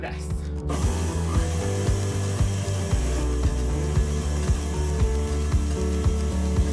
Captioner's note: soft gentle music; dough mixer whirring